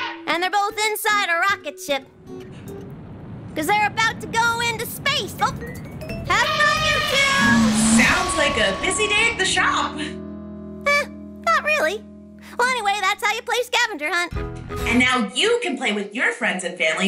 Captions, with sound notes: And they're both inside a rocket ship. 'Cause they're about to go into space. Oop! - Have fun, you two! - (elephant trumpets, rockets roar) - Sounds like a busy day at the shop. - Eh, not really. Well, anyway, that's how you play scavenger hunt. - And now you can play with your friends and family,